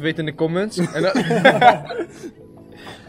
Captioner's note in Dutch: Gelach